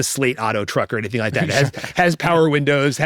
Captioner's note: laughs